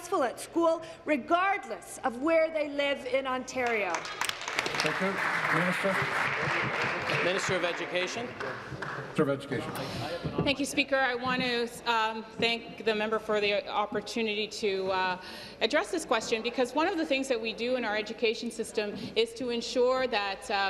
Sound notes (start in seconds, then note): 7.5 applause